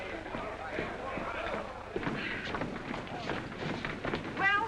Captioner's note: commotion